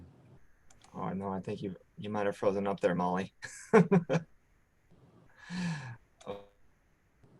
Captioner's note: laughs